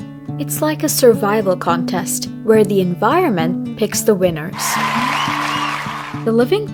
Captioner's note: crowd cheering